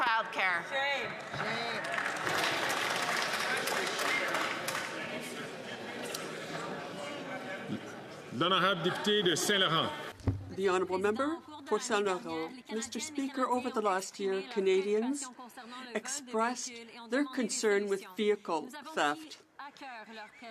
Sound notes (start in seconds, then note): 14.9 speaking French